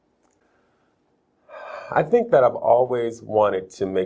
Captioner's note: sighs